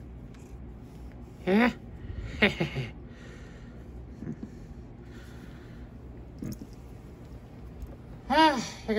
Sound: chuckles

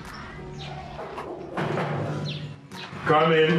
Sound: knock knock

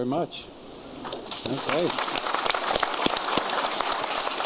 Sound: applause

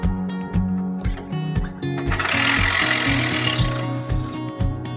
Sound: electric drill sound

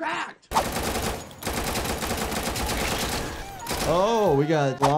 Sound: gunshots exploding

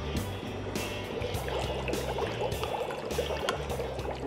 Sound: bubbling

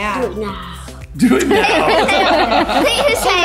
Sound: laughing

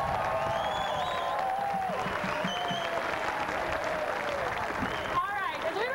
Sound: clapping and whistling

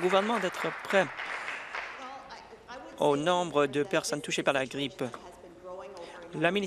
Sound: applause

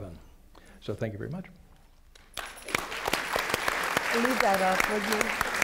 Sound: applause

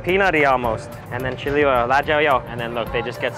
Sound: speaks Mandarin

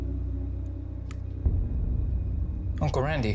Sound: light switch clicks

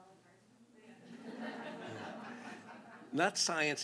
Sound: laughter

